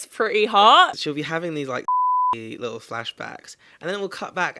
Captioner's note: beep